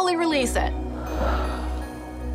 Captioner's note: exhaling